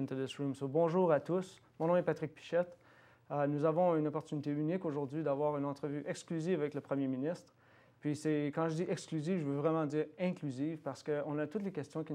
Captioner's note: repeating in French